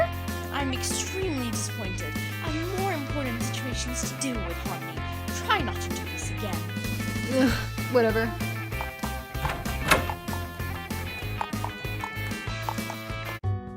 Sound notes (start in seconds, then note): 8.6 hoof steps; 9.3 door opening; 10.4 hoof steps